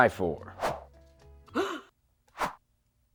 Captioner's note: gasp